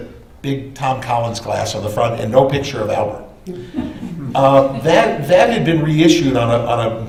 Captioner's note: laughter